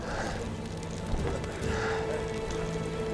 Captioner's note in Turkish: Nefes sesi